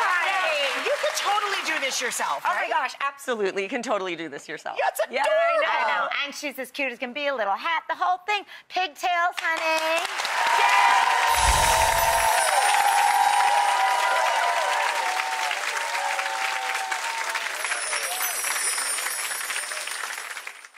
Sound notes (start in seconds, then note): 11.0 clapping; 11.9 cheering